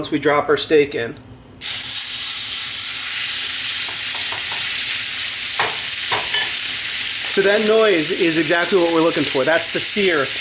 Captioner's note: sizzling